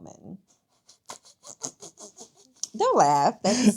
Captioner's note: laughing